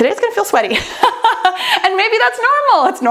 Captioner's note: laughs